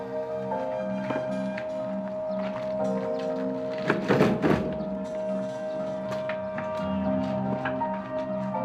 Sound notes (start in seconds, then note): 4.0 wheelbarrow rattles